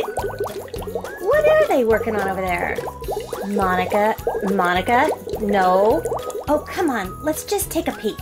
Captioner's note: bubbling sound; sounds of science lab bubbling